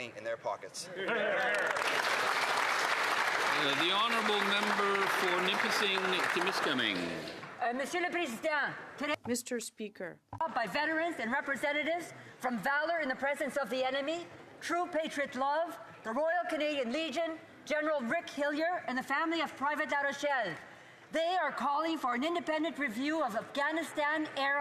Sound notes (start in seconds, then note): 7.3 some Applause; 13.4 speaking French